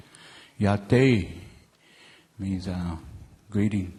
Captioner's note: speaking in native language